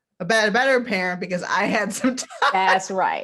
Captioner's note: laughs